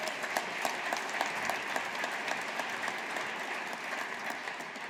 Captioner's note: audience applauding